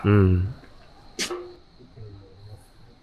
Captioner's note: clang